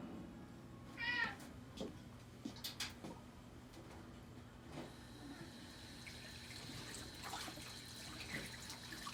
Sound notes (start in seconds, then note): 1.0 cat mewing; 5.4 water running